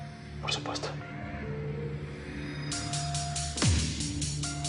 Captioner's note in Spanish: En voz baja